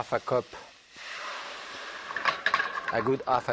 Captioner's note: water sizzling